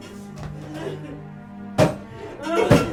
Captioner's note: crying